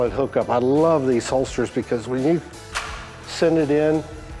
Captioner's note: gun clicks into holster